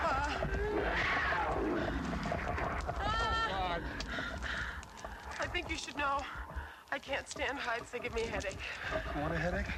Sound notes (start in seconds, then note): 0.0 tribesmen growling